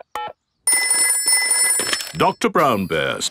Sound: telephone ringing; dialing

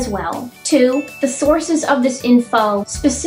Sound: ding

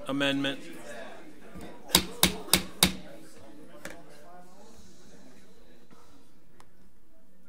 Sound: overlapping chattering; gavel bangs

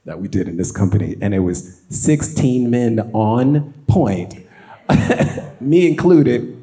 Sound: laughs

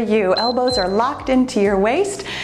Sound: timer beeps

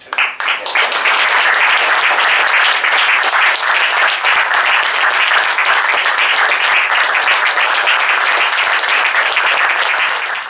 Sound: applause

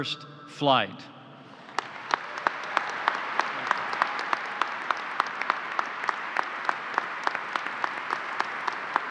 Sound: applause

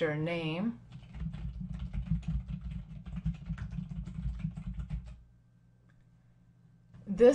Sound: typing

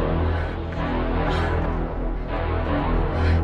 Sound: grunts

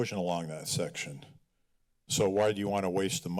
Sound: pause

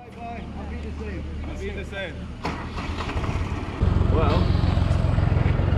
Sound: speaking foreign language

